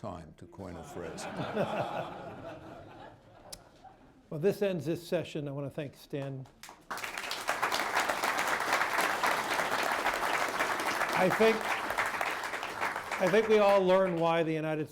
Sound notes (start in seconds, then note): 0.8 laughter; 6.5 applause